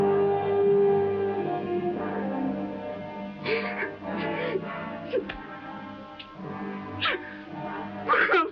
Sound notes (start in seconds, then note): 3.4 Esteban sobbing; 8.0 sobbing